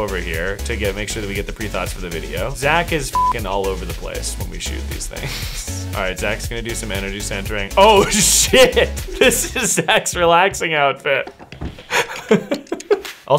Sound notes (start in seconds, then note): 3.1 beep; 11.8 laughter